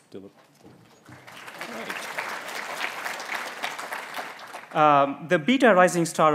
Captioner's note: applause